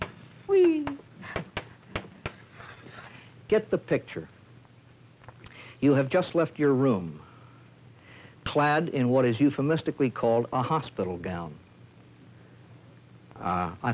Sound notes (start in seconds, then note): 1.3 chalk tapping